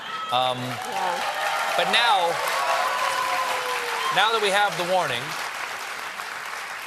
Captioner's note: cheering